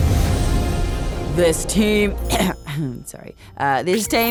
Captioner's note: clears throat